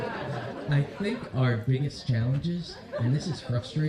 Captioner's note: laughter